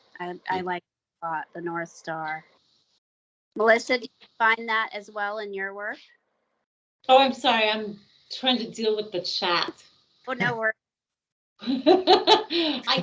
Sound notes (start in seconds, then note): 10.4 chuckling; 11.7 laughing